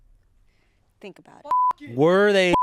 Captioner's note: beep